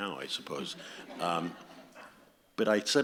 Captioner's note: audience laughs